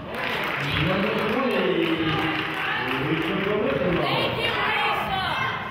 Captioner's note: clapping; murmurs